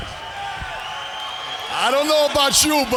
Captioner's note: crowd cheering